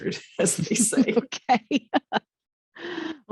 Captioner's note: chuckling